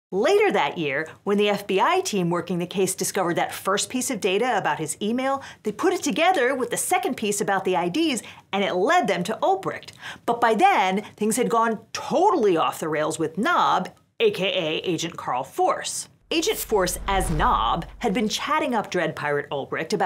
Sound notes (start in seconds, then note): 16.3 air whooshes